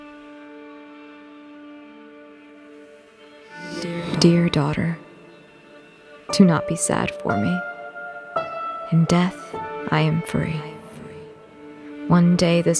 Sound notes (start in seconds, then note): 1.6 distortion fading into clarity